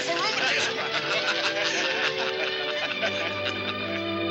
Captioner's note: laughter